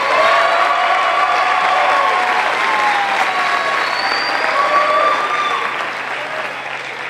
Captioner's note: crowd cheering